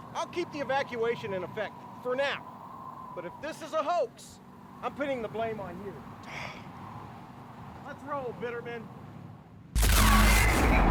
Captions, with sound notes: I'll keep the evacuation in effect, for now. But if this is a hoax, I'm pinning the blame on you. (General Graham sighs) Let's roll, Bitterman.